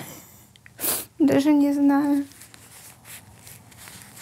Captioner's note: chuckles; sniffs